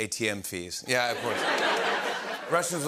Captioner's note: laughter